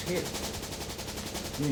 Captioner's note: machine-gun fire